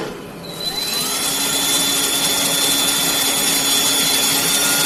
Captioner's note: drill whirring